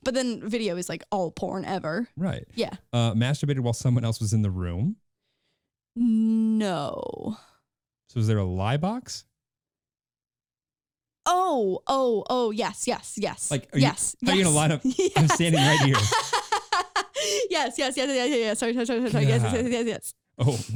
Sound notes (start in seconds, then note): 16.4 laughing